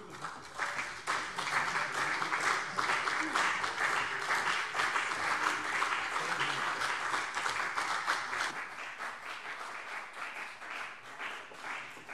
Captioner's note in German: Beifall CDU und BÜNDNIS 90/DIE GRÜNEN